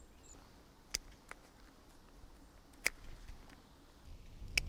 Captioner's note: clippers snipping